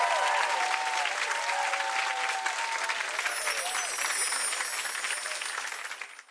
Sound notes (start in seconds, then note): 0.0 audience cheering and clapping; 3.1 bells chiming